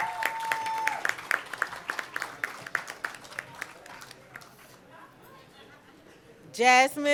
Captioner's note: cheering and Applause